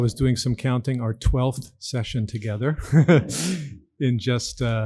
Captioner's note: laughs